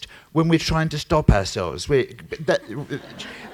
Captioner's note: laughter